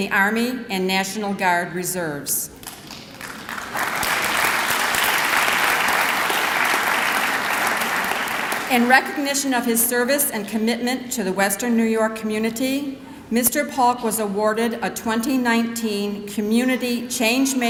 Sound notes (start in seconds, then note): 2.6 clapping